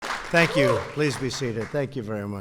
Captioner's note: applause